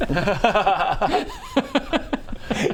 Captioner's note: unsympathetic laughter